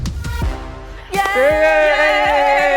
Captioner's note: students cheering